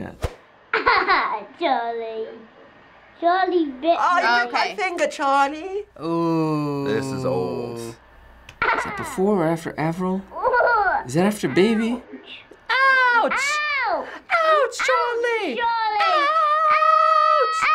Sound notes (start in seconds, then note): 0.7 child laughs; 3.7 British accent